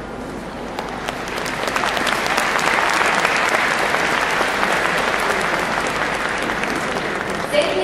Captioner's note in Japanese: 拍手